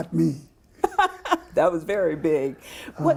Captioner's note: laughter